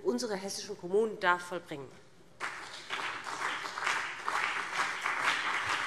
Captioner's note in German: Beifall BÜNDNIS 90/DIE GRÜNEN und CDU